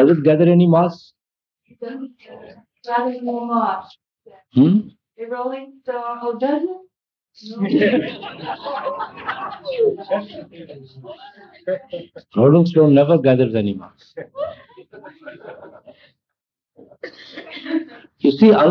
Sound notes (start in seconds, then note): 7.6 laughter